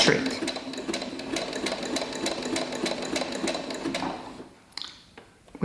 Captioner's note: sewing on sewing machine